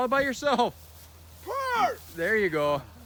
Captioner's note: laughs